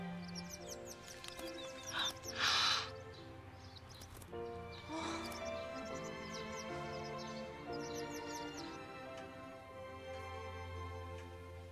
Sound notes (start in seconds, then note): 2.2 Annie Gasps